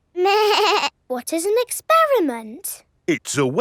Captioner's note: snorts; bleating